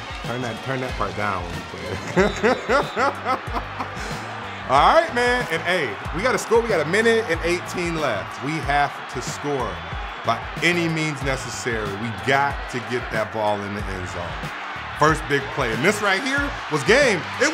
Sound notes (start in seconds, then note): 1.9 laughing